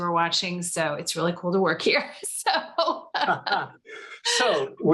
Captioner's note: laughs